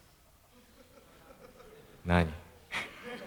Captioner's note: laughs